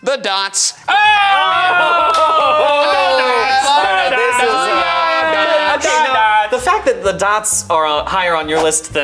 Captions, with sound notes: the dots. - Oh! - Oh! (all shouting) - Dot dots. - Dot dots. - The fact that the dots are higher on your list